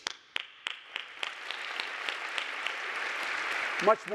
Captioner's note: audience applauding